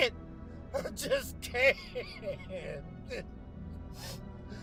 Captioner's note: crying